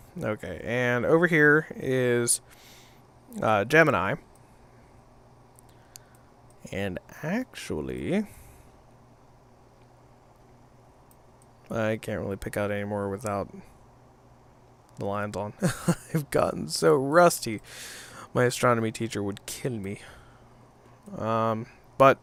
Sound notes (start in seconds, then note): 15.6 laughs